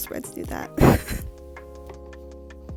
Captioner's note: laughs